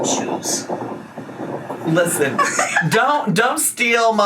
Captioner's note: laughing